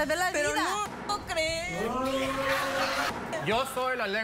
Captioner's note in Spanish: gritos y exclamaciones